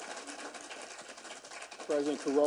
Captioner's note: applause